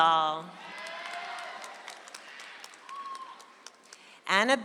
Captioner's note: audience applauds